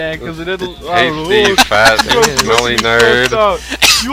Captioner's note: wheeze